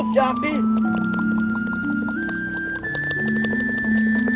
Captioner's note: baboon chattering